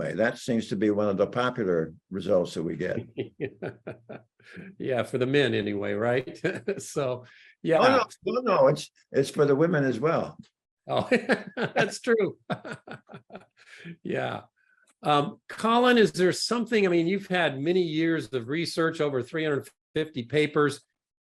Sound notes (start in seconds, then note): 2.8 laughs; 10.9 laughs